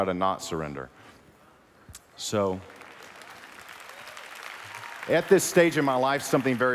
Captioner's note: applause